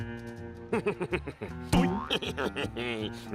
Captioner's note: laughing